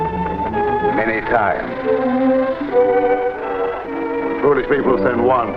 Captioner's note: serpent rattling